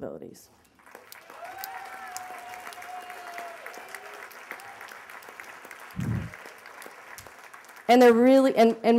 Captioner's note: applause